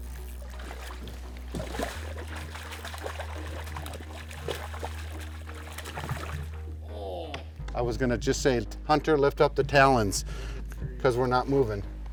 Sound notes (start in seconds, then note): 1.7 splashing; 1.7 tense music